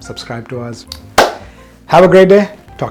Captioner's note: hands clapping